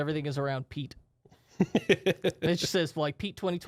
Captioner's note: softly laughing